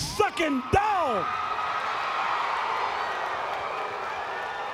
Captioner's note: audience cheering